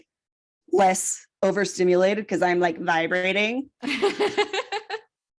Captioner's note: laughs